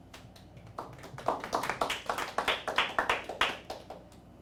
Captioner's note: scattered applauding